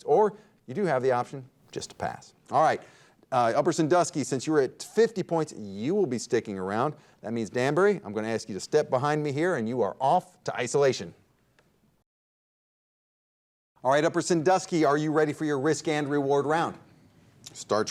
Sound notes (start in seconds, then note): none